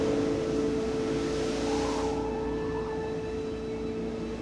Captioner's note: wind howling